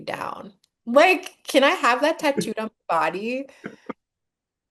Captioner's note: laughs